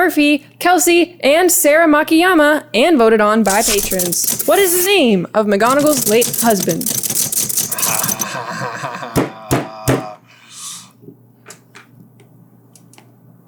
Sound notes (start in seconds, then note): 7.6 uncomfortable laughter; 9.5 pounds desk 3 times